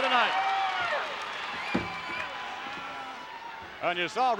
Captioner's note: applause